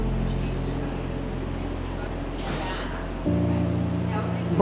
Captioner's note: staff talking